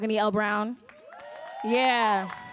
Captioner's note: audience cheering and applauding